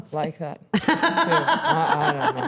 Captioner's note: Stephanie laughing